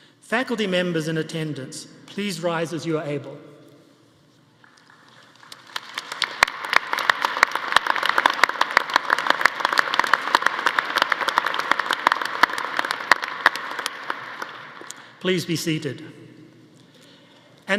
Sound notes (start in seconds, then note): 4.8 audience applauding